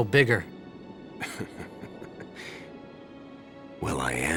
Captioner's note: chuckles